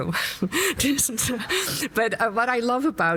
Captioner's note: laughs